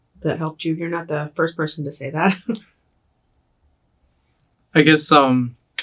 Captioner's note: chuckles